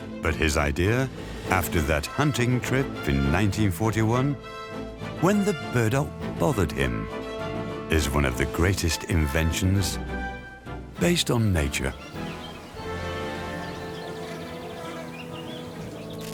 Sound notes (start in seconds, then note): 11.0 birds chirping